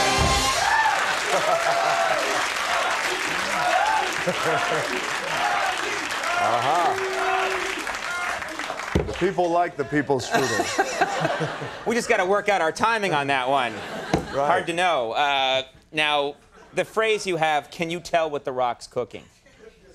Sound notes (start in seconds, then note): 0.0 audience cheering; 0.2 audience laughing; 6.7 audience clapping; 10.1 audience laughing; 10.2 Conan chuckles; 14.0 Conan slaps desk